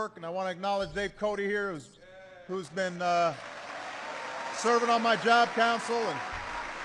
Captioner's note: applause